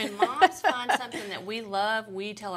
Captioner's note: chuckling